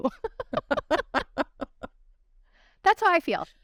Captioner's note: laughter